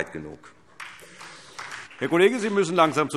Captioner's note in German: Beifall SPD